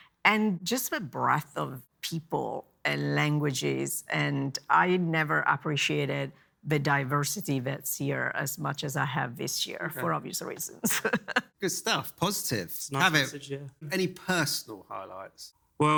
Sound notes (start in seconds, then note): 10.6 laughs